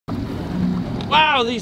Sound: engine puttering

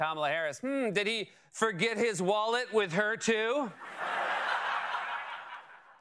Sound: laughter

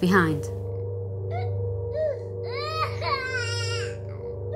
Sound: baby crying

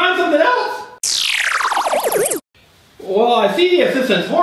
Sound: silly noise

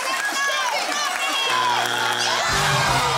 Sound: loud buzzing; theme music playing

